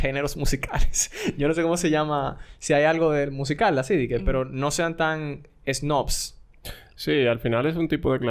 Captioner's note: laughs